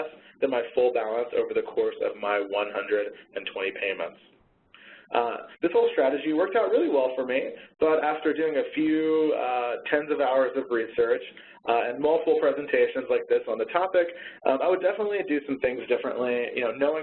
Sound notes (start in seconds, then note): none